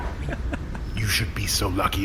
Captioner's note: muffled laughter